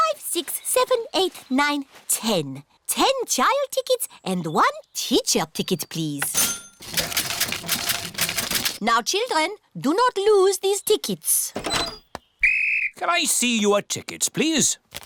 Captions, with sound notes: six, seven, eight, nine, ten. Ten child tickets -and one teacher ticket, please. -(CASH REGISTER DINGS) Now, children, do not lose these tickets. -(BLOWS WHISTLE) -Can I see your tickets, please?